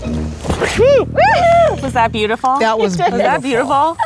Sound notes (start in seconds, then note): 0.6 group cheers